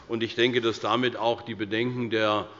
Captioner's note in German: none